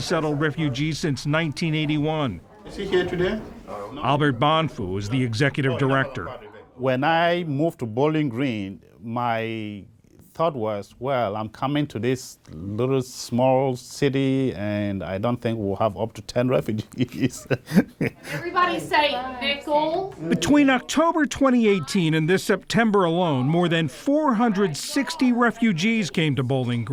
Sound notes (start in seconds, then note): 18.9 laughter